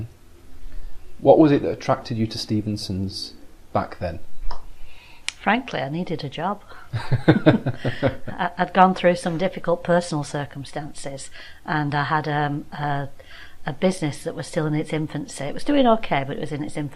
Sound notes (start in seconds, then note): 6.7 laughing